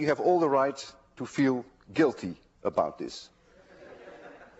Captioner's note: class laughs